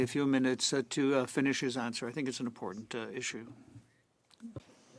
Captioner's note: speaking French